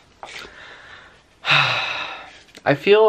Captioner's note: sighs